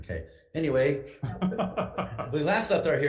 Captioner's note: laughs